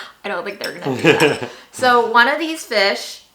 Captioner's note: laughs